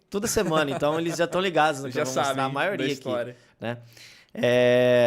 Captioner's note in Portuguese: risos